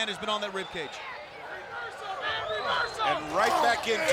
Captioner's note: spectators shout